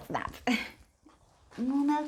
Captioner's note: chuckles